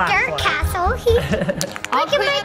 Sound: both laughing

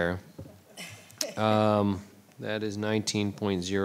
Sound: board laughing

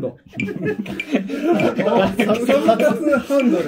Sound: laughing

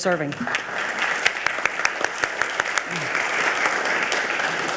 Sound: audience applaud

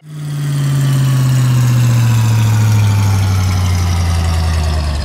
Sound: engine slowdown

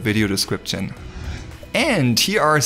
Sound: air whooshing

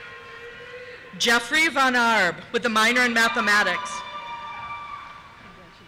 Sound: cheers

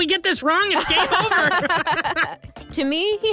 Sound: laughs

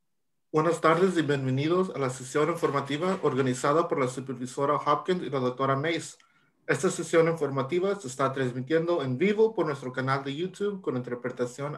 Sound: speaking Spanish

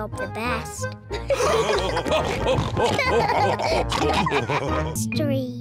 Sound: all laughing

